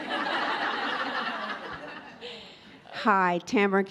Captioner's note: all laugh